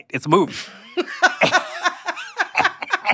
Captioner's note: laughter